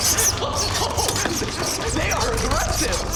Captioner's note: scratching on glass continues; loudly laughing nervously